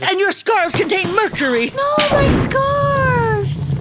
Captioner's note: sound of scarves being tossed into a roaring fireplace